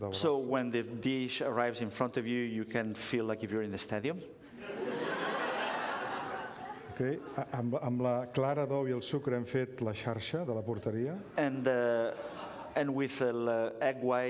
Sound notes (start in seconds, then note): 0.0 speaking catalan; 4.6 laughter; 9.1 speaking catalan